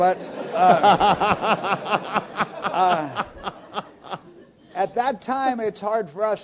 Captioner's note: laugh